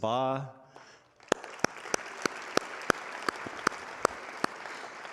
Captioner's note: audience applauding